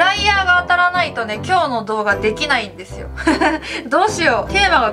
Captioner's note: laughs